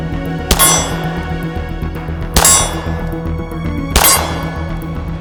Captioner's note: gunshots; target rings